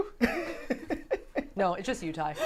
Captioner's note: laughing